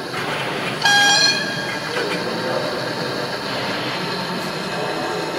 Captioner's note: horn whistle